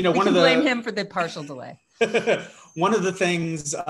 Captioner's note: laughs